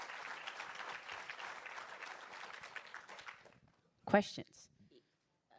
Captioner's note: applause